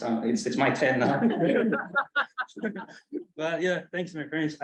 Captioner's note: colleagues laugh